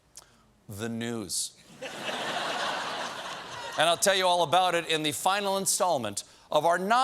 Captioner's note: laughter